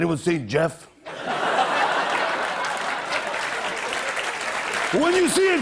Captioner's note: cheers and applause